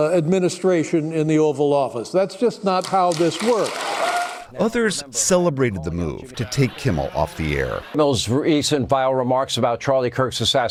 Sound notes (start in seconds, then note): 4.6 cheering